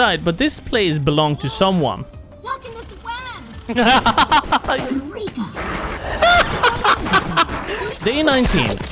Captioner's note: laughter